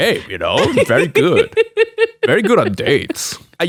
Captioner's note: laughing